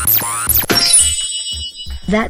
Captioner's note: zapping; poof